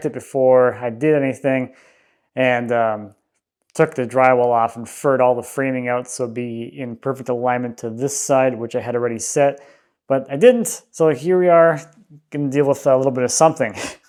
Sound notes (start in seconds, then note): none